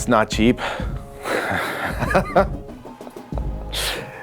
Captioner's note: laughs